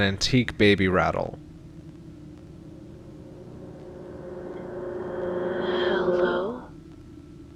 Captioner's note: whispering